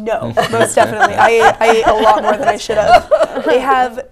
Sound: laughter

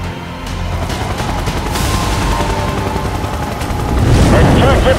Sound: helicopter whirring

